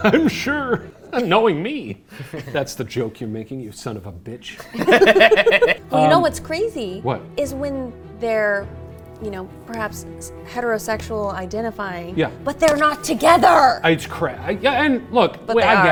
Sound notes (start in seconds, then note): 4.6 laughing happily